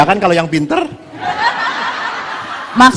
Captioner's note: audience laughs